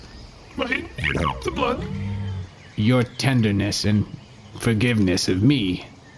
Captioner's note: quietly